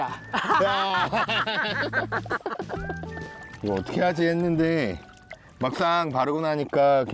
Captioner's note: laughter